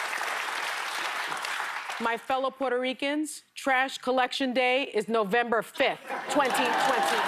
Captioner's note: applause